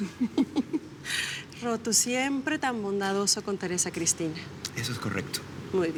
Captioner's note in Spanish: Risas